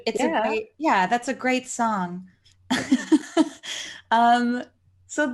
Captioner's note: laughs